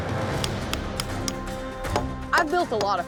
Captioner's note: clanking sound; hammering